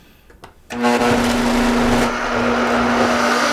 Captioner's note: whirring